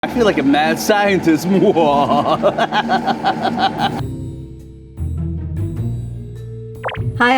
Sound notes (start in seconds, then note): 1.9 laughs; 4.3 mischievous music